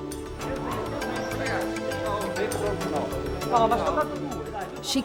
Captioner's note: group chattering